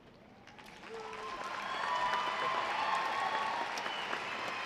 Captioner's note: audience applauding